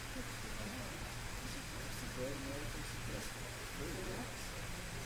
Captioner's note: soft background chatter